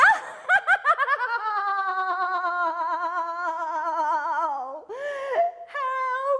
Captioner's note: laughs